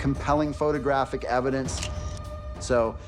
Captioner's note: camera shutter clicks